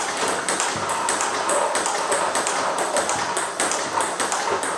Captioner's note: ball ping pong hitting continues